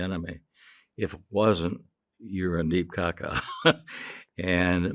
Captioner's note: chuckling